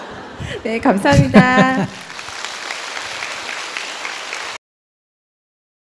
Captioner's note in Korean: 청중 웃음; 스님 웃음 / 청중 박수